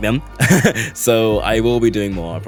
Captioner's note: laughs